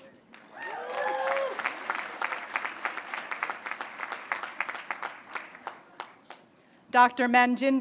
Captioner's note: applause